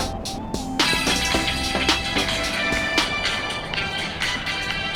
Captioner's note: upbeat pop music continues; phone ringing